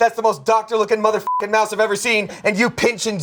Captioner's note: beep